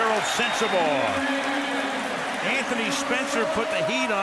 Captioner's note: cheering